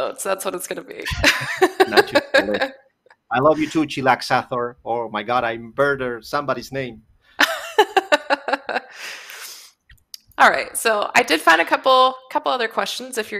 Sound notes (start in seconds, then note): 1.0 laughs; 7.4 laughs